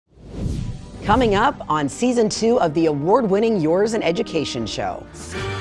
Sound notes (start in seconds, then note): 0.1 air whooshing